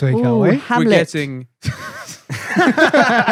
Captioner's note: laughter